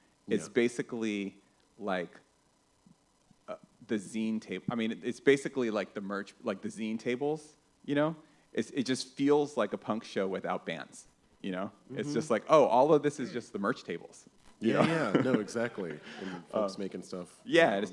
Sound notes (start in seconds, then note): 14.6 laughs